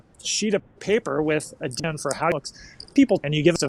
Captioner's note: audio chopping